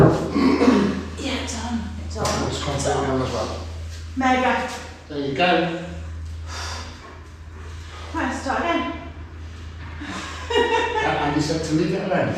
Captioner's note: laughter